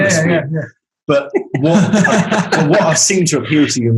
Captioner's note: group laughing